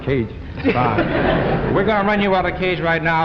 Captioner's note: laughter